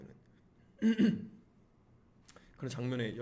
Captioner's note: cough